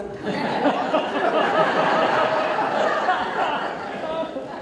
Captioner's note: audience Laughter